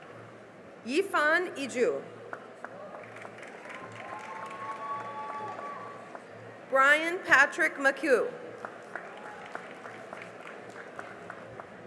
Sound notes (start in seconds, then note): 2.7 cheering and applause; 8.6 cheering and applause